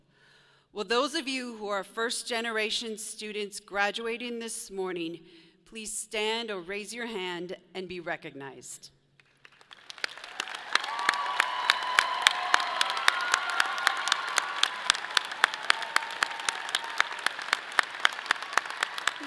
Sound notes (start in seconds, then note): 9.8 audience applauds; 11.8 people cheer